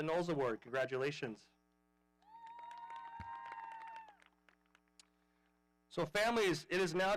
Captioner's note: audience applauding